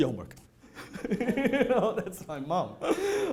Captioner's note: laughing